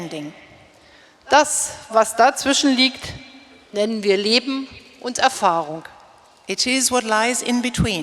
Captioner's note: speaking in German